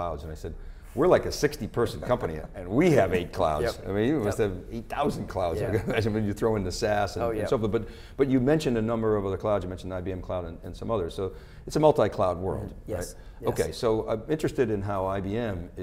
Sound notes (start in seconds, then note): 5.5 laughing